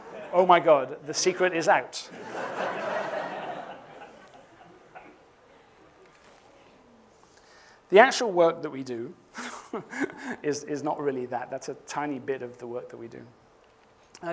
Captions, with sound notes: Oh, my God. The secret is out. [ Laughter ] The actual work that we do [laughs] is not really that. That's a tiny bit of the work that we do.